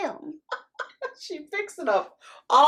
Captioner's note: nana laughing